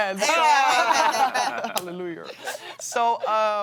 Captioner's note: laughs